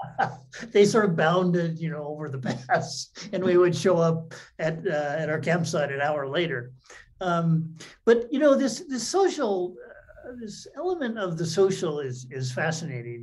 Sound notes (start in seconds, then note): 7.5 laughs